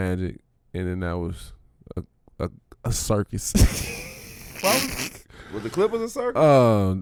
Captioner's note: laughs